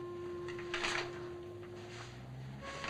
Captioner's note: pages rustling